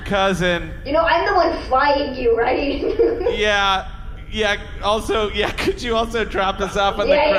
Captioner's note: laughing